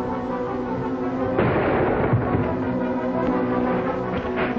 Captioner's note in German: Schuss feuert